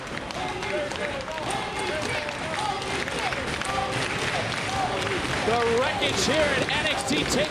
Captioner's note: crowd cheering